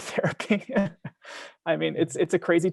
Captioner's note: laughing